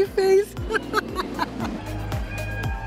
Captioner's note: laughs